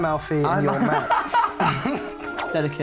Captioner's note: both laugh